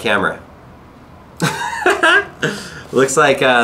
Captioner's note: laughs